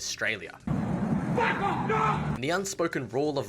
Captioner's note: australian bloke noises